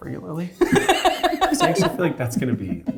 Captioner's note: laughing